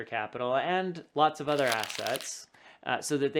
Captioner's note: paper rubbing